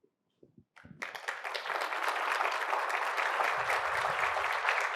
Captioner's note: applause